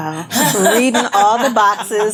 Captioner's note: laughing